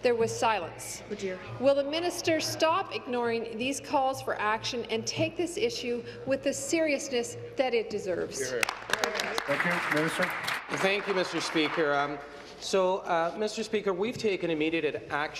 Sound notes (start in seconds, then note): 11.9 applause